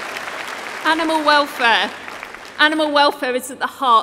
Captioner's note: applause